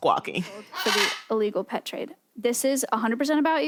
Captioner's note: parrot squawks